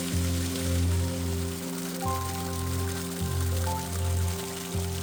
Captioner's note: water splashing